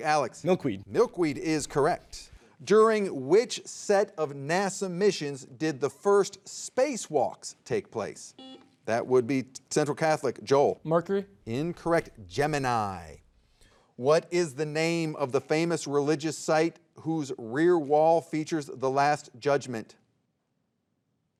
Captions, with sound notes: - Milkweed. - Milkweed is correct. During which set of NASA missions did the first spacewalks take place? (soft beeping) That would be Central Catholic, Joel. - Mercury. - Incorrect, Gemini. What is the name of the famous religious site whose rear wall features The Last Judgment?